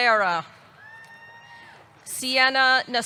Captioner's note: audience cheering